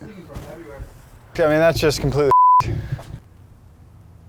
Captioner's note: beep